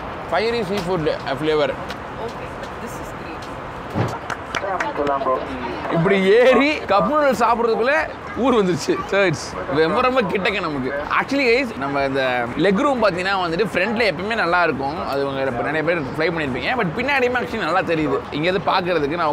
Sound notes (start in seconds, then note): 4.2 claps